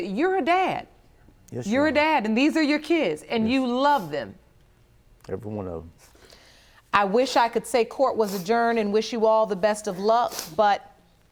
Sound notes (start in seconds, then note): none